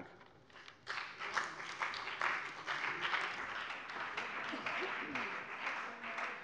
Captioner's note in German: Beifall bei dem BÜNDNIS 90/DIE GRÜNEN und der CDU